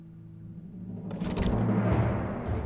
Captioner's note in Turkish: Kapı açılma sesi